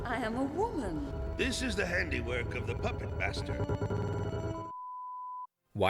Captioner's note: strange signal noises